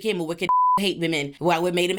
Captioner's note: beep